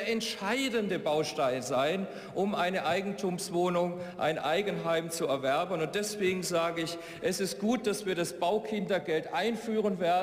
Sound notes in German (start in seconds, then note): none